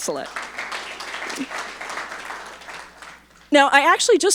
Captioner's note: audience applauding